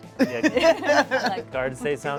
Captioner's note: laughs